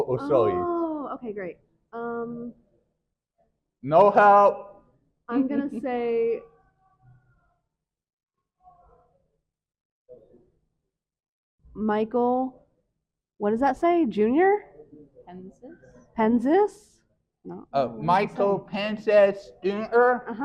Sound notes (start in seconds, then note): 7.2 chuckles